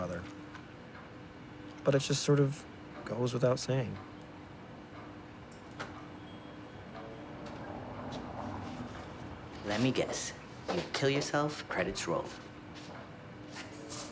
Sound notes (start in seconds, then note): 6.0 entry bell ringing